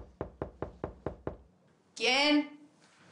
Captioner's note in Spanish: Toques en la puerta